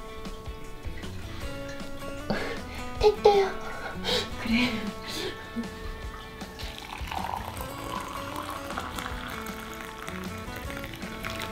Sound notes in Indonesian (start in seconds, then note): 2.3 tertawa